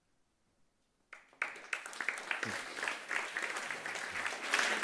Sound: audience applauding

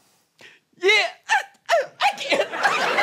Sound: sobbing

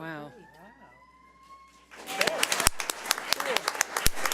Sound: audience applauds

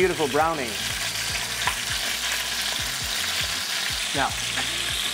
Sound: sizzling sound

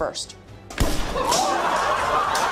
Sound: gun shot

